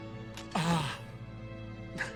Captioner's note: groaning